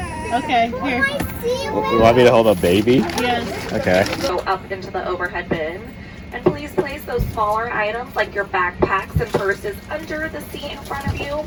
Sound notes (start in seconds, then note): 4.4 intercom